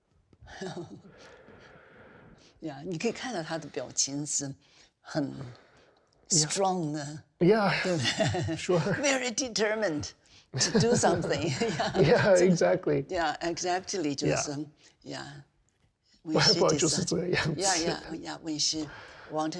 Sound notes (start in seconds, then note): 2.7 speaking in Chinese